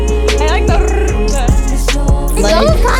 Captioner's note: laughing; tongue rolling R sound